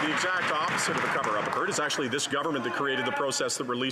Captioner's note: some Applause